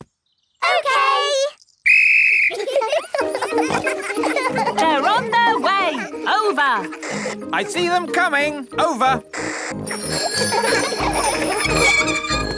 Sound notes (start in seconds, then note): 1.8 blows whistle; 2.4 giggling; 9.8 giggling and ringing bells